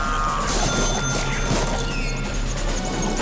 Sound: dinging

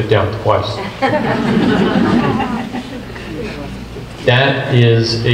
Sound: group laughs

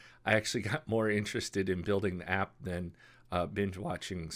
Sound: none

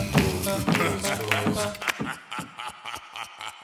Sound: deep laughter

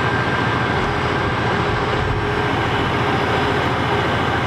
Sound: engine whirring

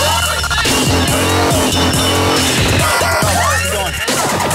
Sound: bells ringing; techno music

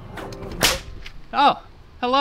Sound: sharp slapping sound

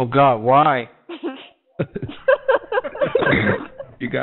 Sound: laughter

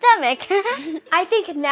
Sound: everyone laughs

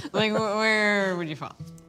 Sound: laughter

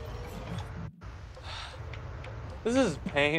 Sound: sigh

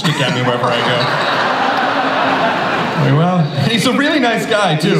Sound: audience laughs

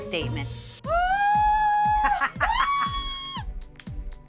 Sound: screaming

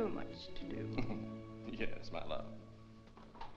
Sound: chuckles

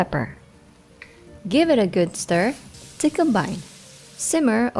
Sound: sizzling

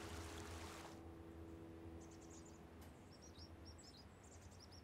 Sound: birds chirping

